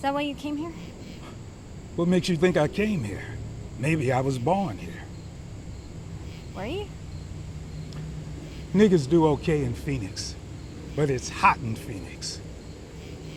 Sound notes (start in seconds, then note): 1.6 scoffs